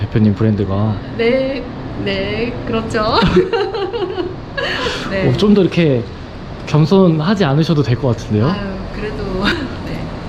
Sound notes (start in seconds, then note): 3.0 laughs